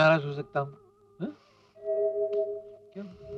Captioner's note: sniffs